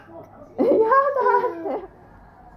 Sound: cries

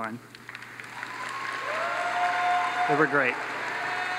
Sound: audience applauds

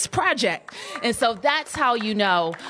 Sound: applause

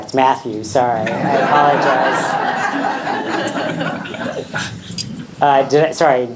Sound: audience laughing

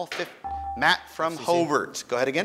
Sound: ding

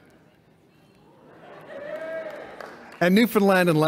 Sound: cheer

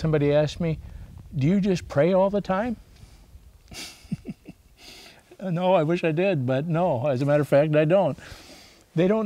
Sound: laughs

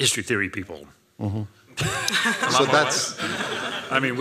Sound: laughter

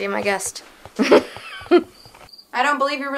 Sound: laughing

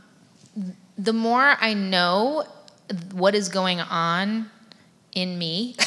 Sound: laughs

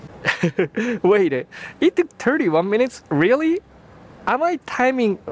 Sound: chuckles

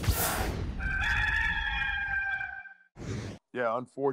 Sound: cock crowing

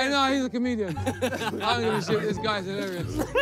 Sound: players laugh

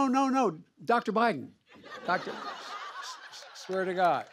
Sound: laughter; applause

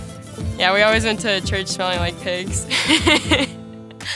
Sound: laughs

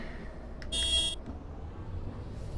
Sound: bus Honks

